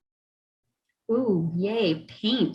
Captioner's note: mimics celebration